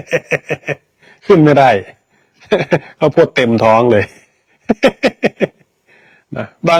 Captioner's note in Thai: เสียงหัวเราะ; เสียงหัวเราะ